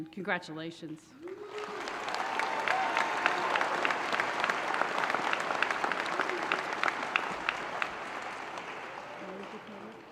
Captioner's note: applause